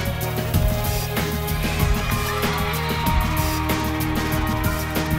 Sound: crowd applauding

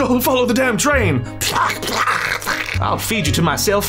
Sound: various decapitated noises

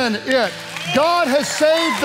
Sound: congregation applauding

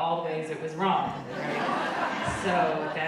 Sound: audience laughing

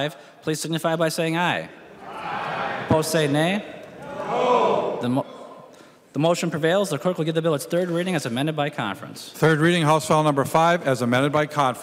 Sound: chorus of ayes

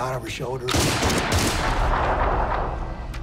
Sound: gunfire

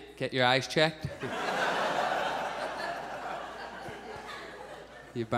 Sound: audience laughs

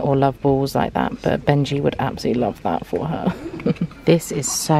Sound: laughs

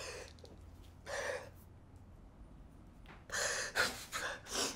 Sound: heavy exhale

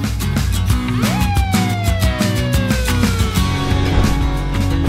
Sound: police siren

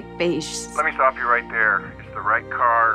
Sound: on phone

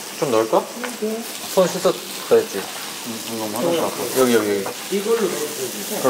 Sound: sizzle

